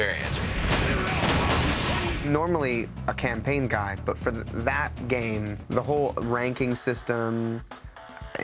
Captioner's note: gunfire